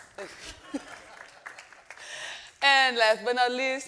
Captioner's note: audience laughing